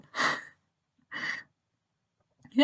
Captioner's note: laughs